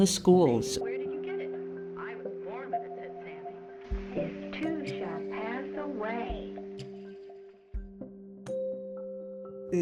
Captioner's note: classroom instruction sounds